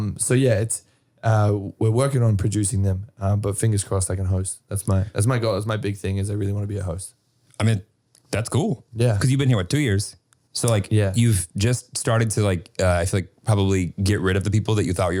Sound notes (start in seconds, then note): none